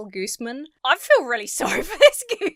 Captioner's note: laughs